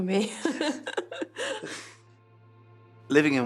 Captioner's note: laughs